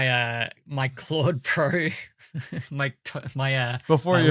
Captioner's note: chuckles